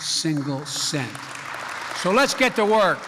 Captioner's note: applause